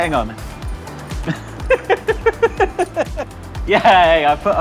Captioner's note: brief chuckle; giggles nervously